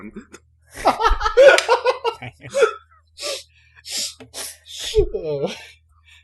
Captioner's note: laughter